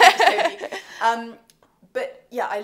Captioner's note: laughs